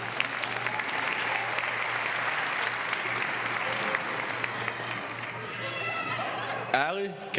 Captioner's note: applause